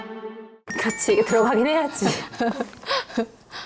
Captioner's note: serious music playing; satisfied sound effect